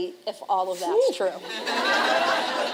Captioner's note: laughter